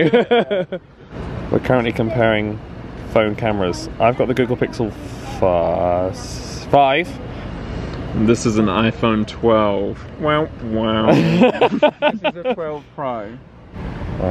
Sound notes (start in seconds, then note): 0.0 laughs; 10.7 sad hums; 11.0 laughs